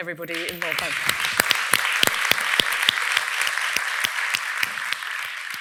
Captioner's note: audience applauding